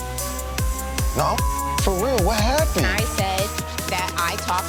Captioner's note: tense music; beeping